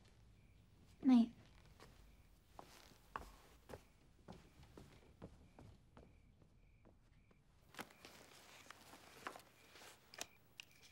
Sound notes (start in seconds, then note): 2.5 crickets chirping